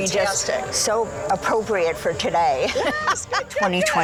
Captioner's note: laughs